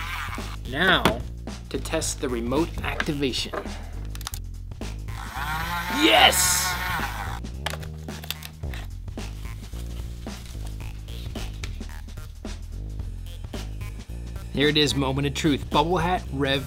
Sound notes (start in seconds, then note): 5.1 whirring